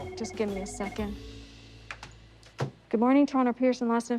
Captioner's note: phone ringing